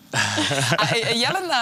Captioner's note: awkward chuckles